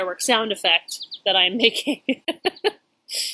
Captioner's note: laughs